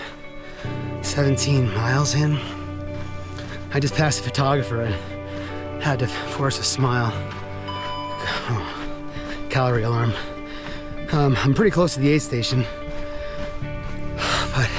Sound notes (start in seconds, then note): 7.6 alarm beeping; 14.1 sighing